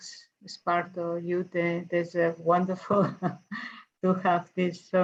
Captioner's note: chuckles